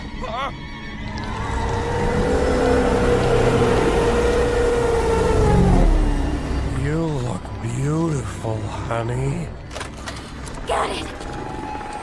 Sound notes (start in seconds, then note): 1.2 wailing